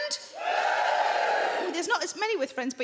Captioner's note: crowd members cheer